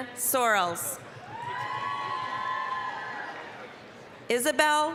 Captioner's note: applause, cheering